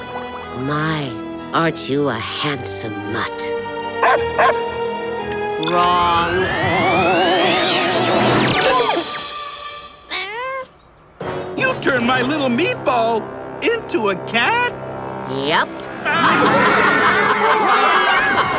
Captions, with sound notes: My, aren't you a handsome mutt? [barking] Wrong. [meowing] You turned my little Meatball into a cat? Yep. [screaming]